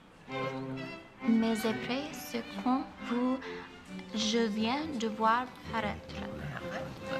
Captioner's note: reciting French